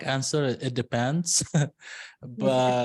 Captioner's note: laughs